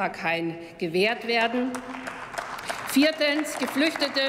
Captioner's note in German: Applaus